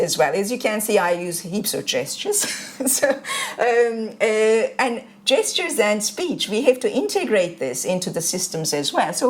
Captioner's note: chuckles